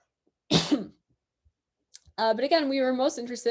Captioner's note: coughs